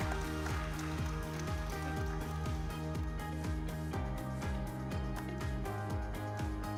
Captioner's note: audience applauds; upbeat music